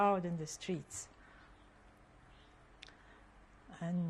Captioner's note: pauses for 3 seconds